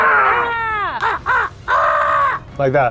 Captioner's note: imitates cawing